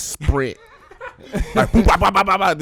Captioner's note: laughing